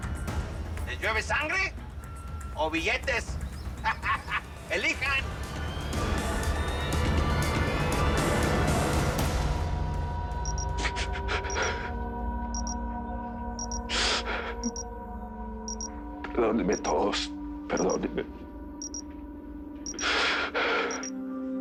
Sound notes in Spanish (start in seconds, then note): 11.5 Sollozos; 21.1 Sollozos